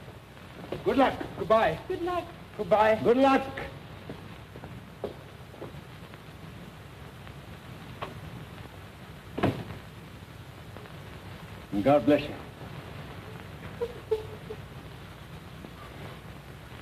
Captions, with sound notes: GOOD LUCK. GOOD-BYE. GOOD LUCK. GOOD-BYE. GOOD LUCK! [DOOR CLOSES] AND GOD BLESS YOU. [SOBBING]